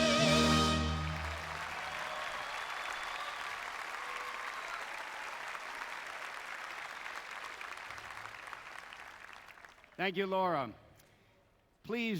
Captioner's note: applause